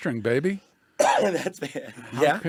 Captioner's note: coughs